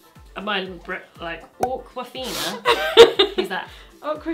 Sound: stutters; cork pops; laughs

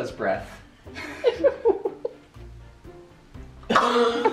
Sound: laughing

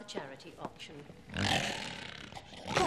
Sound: roar

